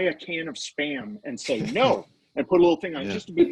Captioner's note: laughing